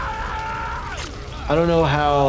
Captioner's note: screaming continues